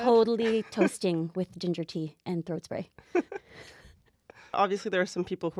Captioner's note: quietly laugh a little